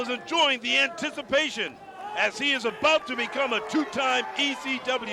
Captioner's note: crowd chatter